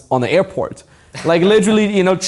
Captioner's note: laughing